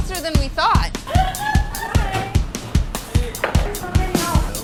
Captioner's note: laughter